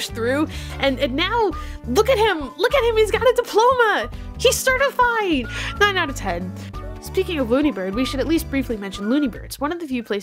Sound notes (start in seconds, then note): none